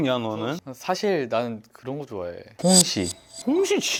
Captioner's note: hesitant